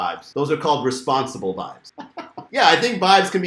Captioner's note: laughs